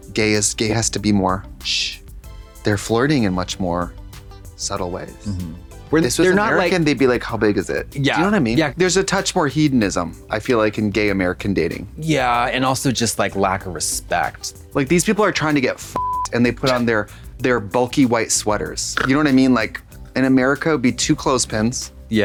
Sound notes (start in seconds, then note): 15.9 beep; 18.9 Katya snorts